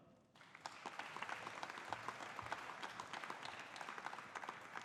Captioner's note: audience applauding